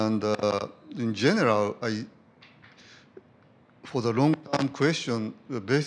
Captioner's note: audio jumps